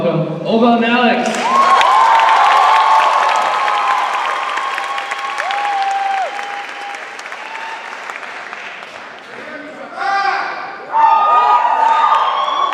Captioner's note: cheers and applause